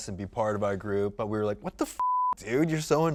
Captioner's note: beep